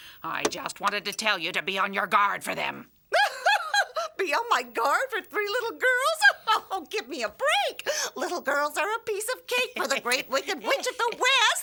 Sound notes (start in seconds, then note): 3.1 laughing; 6.0 laughing